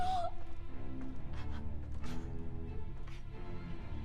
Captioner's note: sobs